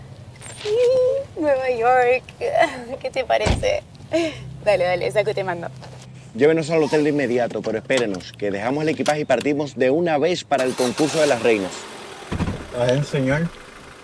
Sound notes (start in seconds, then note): 2.4 laughing; 3.4 door Closing; 4.1 laughing; 10.5 car Starting